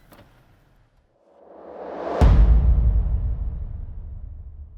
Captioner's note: whooshing